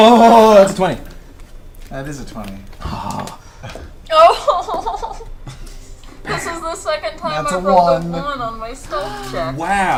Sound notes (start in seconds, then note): 5.3 whimpers